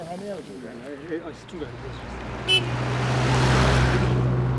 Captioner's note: truck honking